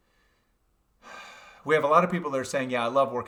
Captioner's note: sighs